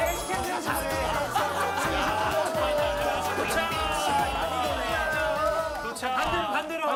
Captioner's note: laughter